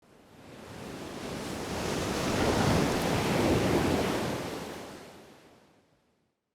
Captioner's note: waves crashing